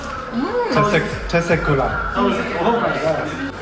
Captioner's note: Turkish